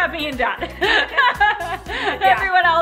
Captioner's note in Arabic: يضحكان